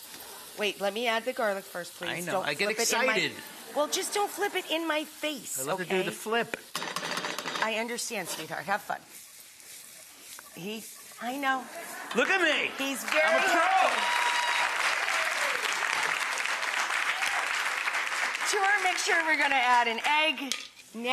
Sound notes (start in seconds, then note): 15.9 cheers and applause